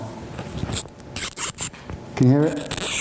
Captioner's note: scratching